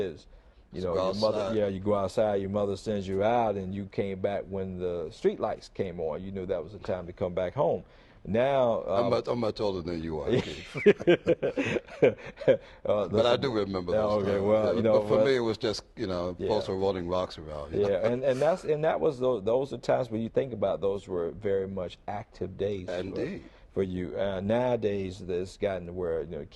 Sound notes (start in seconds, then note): 10.3 laughter